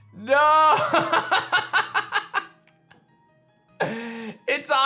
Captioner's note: laughs